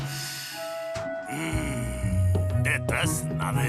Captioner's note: sniffs